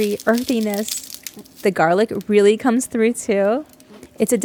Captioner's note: muted eating noises